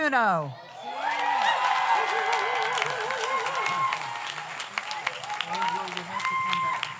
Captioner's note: audience cheers; audience applauds